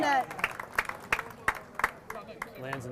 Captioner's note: audience applauding